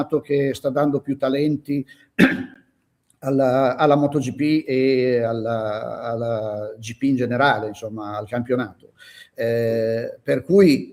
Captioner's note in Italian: schiarire la voce